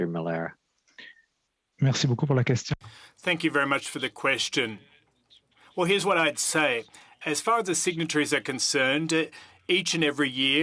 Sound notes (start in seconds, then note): 7.3 speaking French